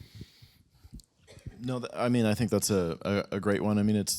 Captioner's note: coughing